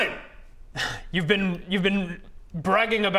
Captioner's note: impatient sigh